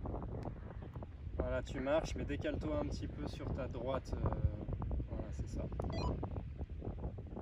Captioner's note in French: bip